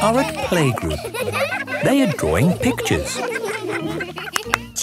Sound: laughter

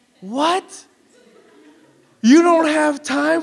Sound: audience laughs

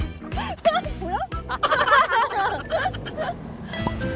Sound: giggle

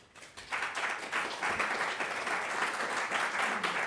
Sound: audience applauding

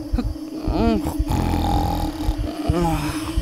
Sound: snoring

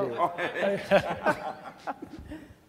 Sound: laughter

